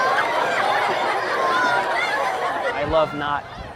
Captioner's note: audience laughing